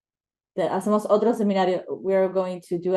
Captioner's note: interpreter speaks in foreign language